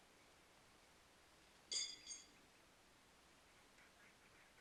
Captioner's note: horseshoes clanging